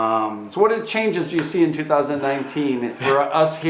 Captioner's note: none